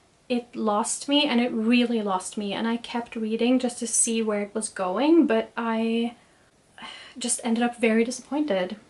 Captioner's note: sighs